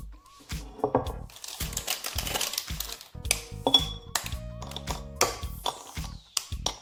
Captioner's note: chocolate crack sound